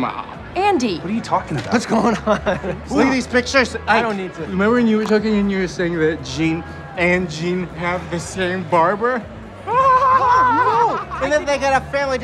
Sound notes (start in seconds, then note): 2.0 chuckling; 9.7 laughs